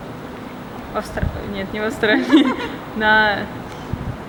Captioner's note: laughter